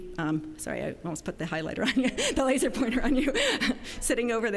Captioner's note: laughing